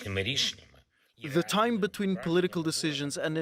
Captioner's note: through translator